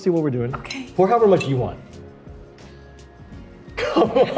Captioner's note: glasses clink; laugh